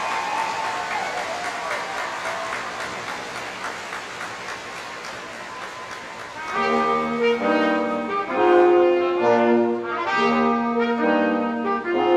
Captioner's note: cheers and Applause